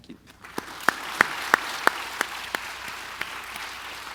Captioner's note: audience applauding